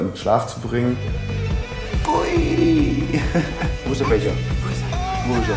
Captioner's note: laughs